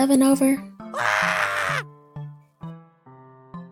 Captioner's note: comical screams; soft music